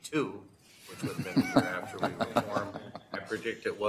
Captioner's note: laughter